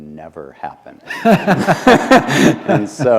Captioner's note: laughter